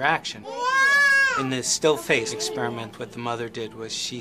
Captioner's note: baby crying